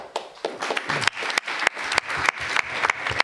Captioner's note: applause